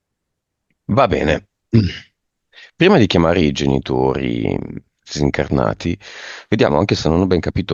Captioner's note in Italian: schiarire la voce